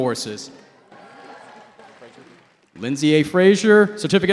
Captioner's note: cheering